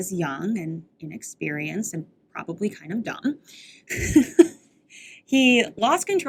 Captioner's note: laughs